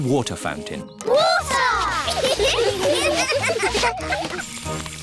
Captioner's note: laughter